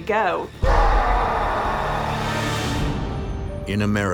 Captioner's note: demonic scream